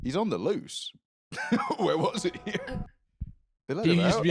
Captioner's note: laughs